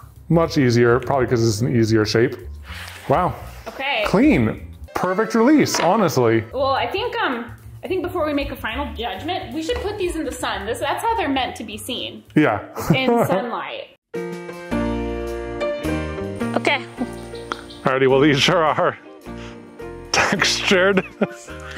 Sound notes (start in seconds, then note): 12.7 laughs; 14.1 piano music; 20.1 both laugh